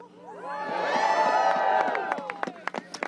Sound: applause

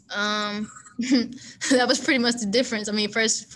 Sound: chuckles

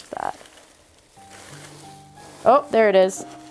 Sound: packing Paper Rustling

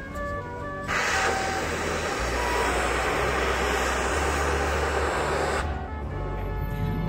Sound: train smoke sound

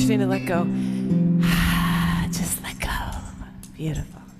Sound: exhale

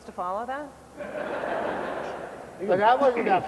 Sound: laughter

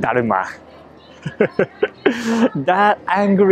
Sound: laughs

